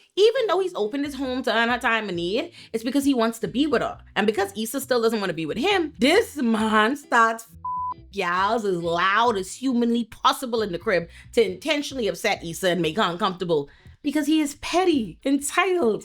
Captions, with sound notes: Even though he's opened his home to earn her time in the year, it's because he wants to be with her and because Esau still doesn't wanna be with him, this man starts (beep) y'all's as loud as humanly possible in the crib to intentionally upset Esau and make her uncomfortable because he is petty, entitled,